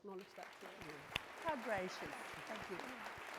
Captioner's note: audience clapping